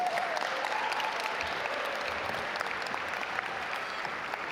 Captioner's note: audience applaud